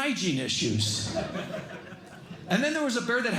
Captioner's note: laughter